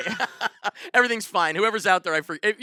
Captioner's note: laughs